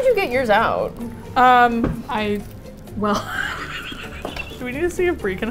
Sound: laughs

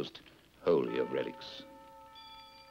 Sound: bells chiming

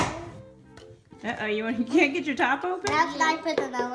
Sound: voiceover

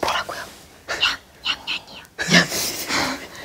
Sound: mispronunciation

